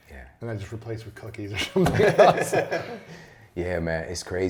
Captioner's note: laughter